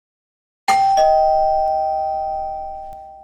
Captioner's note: doorbell rings